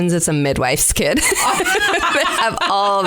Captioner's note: laughter